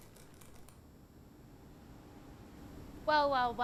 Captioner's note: ropes creak